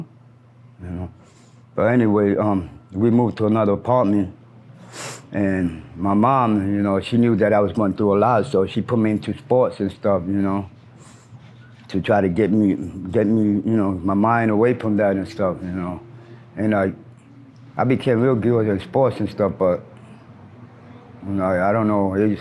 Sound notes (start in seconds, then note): 4.8 sniffles softly; 10.9 sniffles; 20.0 traffic passes